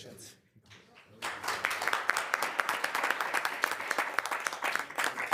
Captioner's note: attendees applauding